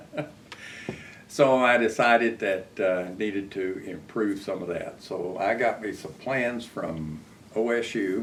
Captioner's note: laughs